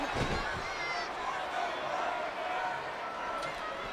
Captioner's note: crowd murmuring